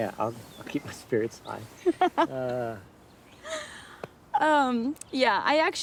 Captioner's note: Zoe laughs